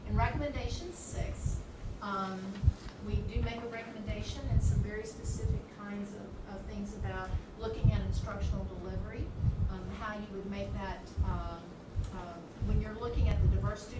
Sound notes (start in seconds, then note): none